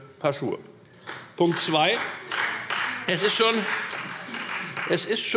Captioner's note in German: Beifall Freie Demokraten